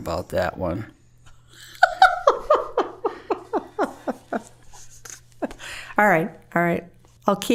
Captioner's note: laughing